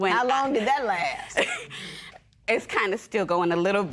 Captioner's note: chuckles